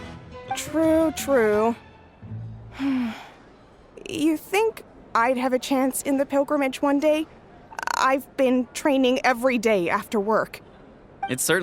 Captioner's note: sigh